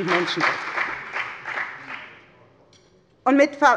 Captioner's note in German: Beifall bei der FDP